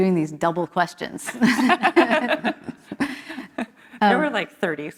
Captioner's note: laughter